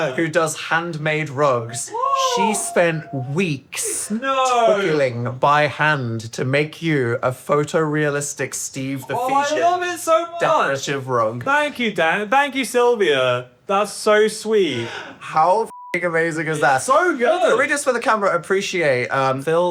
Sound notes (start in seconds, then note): 15.7 beep